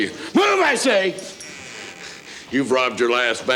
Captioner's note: door creaks